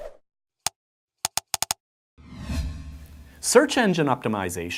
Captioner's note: clicking